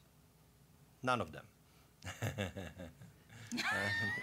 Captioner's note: deep chuckle; audience laughing